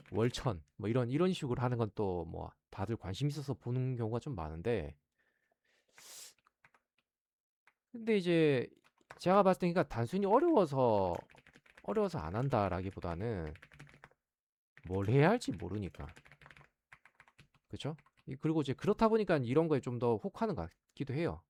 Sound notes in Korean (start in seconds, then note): 6.0 콧방귀